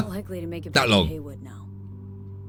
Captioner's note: laughs